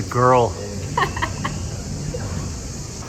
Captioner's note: laughing